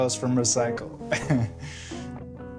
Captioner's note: chuckling